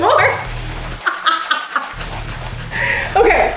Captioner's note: laughing